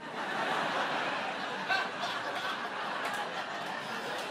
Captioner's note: crowd laughing